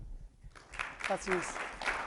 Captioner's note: audience applauds